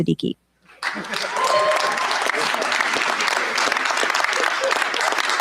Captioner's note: cheers, applause